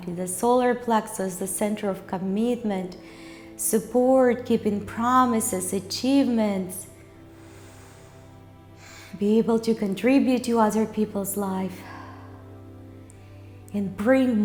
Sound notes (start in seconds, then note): 7.3 inhales; 11.8 exhales